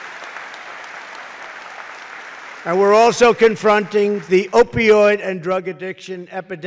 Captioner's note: applause